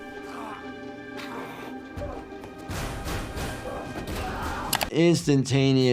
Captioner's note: person grunting and screaming